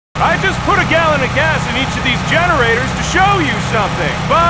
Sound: shouting over generators

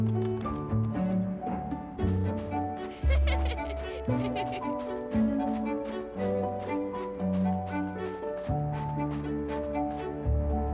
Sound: laughing

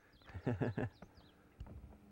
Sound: laughter

